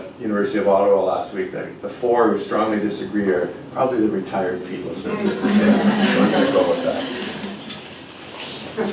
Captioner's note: laughs